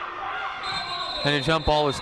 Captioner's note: whistle blows